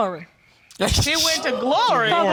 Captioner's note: laughs